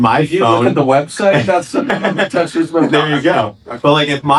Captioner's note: laughing